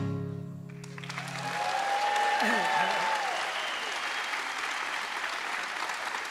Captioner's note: audience applauds and cheers